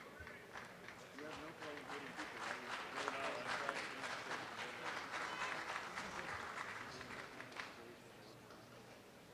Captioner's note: applause